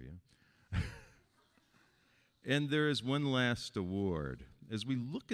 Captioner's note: laughing